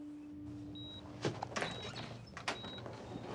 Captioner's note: beeping